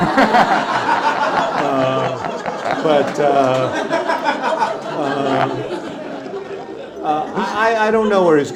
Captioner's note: laughter